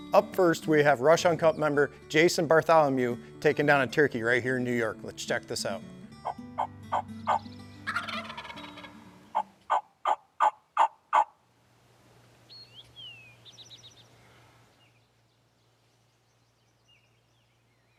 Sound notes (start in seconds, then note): 7.8 birds squawking; 9.4 turkey gobbles